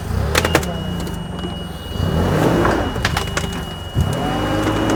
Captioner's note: fork truck motor revving